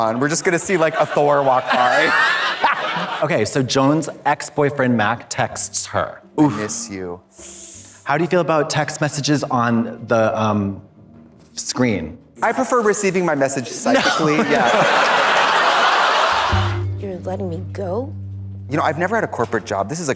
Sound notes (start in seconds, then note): 2.0 Katya guffaws; 2.0 audience laughs; 15.5 audience laughs